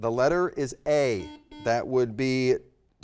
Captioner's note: button beeping